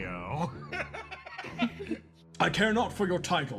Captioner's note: laugh